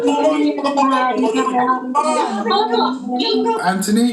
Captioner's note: multiple voices speaking making the sound of clucking hens